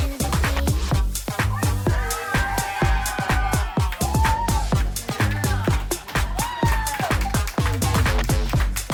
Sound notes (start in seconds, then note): 1.3 clapping and cheering